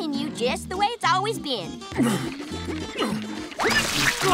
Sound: grunting

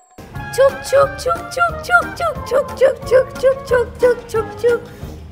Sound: making sound with mouth

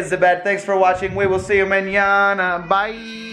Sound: speaking in foreign language

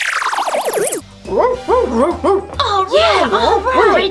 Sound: dog barks

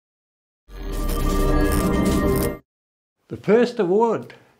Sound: air buzzing

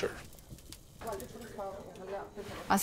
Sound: water boiling; speaking in foreign language

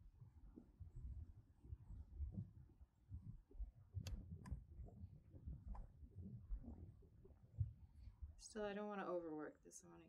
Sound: muffled wind and bird sounds

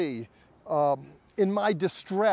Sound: speaking Hebrew

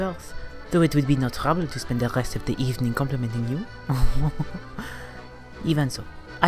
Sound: laughs

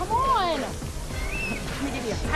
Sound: whistles

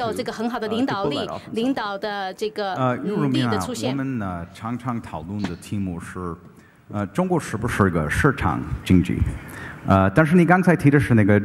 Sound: speaking in Chinese

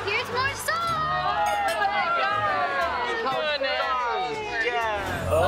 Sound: cheering

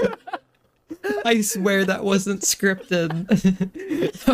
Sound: laughs again; still laughing; crafty laugh n°74

